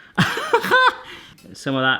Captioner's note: laughs